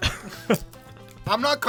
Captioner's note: laughs